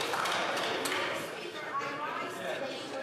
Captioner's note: some Applause